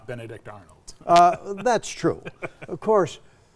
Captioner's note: laughing